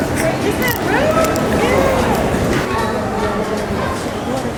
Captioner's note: crowd murmuring